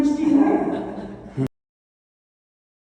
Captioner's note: laughter